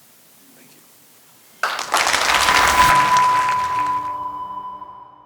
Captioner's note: congregation applauds